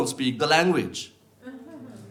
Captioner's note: audience laughs